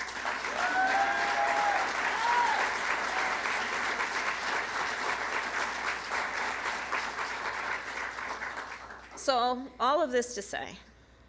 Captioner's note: applause